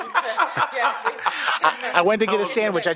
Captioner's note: laughs